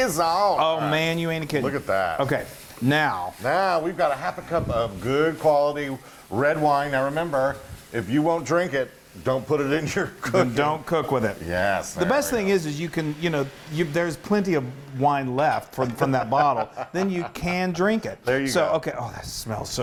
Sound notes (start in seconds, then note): 16.3 laugh